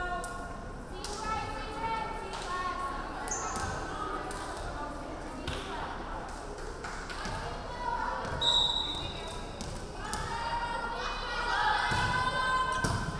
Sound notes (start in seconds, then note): 8.4 referee whistling